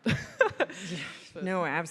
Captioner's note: laughs